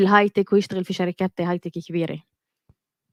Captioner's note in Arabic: لغة أجنبية